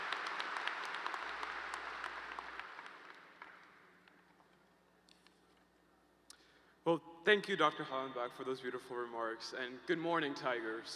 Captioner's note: applause